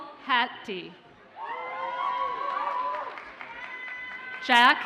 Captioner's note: audience cheers and applauds